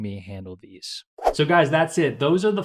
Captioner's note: whooshing